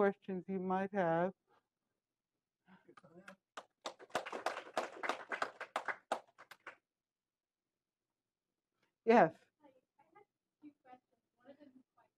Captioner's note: applause